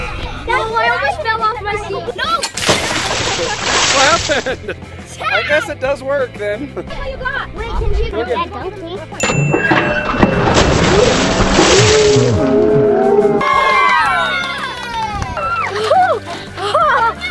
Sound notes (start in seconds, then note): 9.2 chime; 13.3 girls cheering